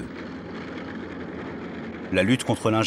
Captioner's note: tank noises